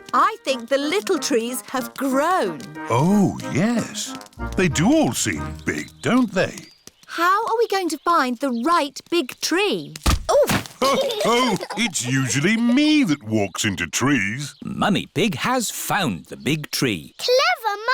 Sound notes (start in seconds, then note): 10.7 others laugh